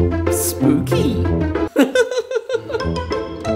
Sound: laughs

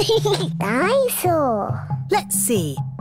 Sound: giggles

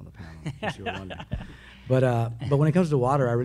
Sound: laugh

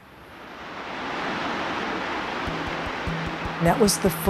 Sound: fire burning and crackling

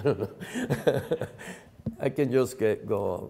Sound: laughing

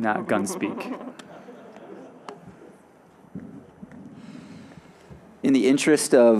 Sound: audience chuckling

